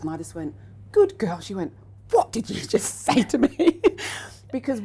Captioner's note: laughs